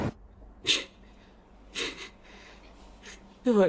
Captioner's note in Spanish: Sollozos